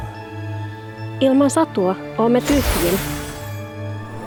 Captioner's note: speaks in Muinein language